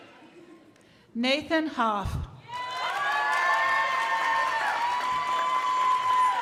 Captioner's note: crowd applauding